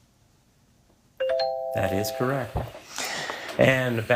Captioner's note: bell ringing